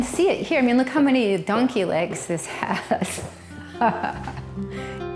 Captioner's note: laughs